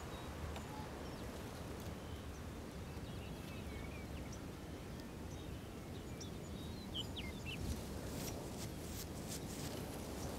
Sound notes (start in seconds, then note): 0.0 birds